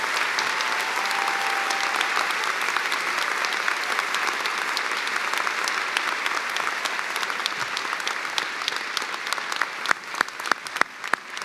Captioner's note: cheers and applause